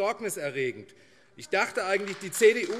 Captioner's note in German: Beifall AfD - Zurufe CDU